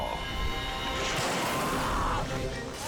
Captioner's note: screaming